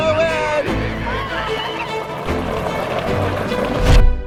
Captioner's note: child whoops